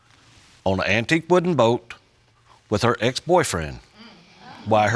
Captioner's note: audience murmuring